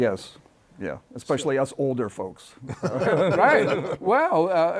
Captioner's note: laughter